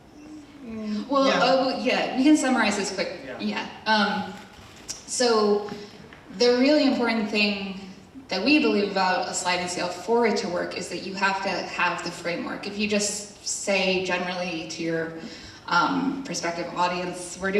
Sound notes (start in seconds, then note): none